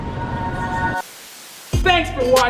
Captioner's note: static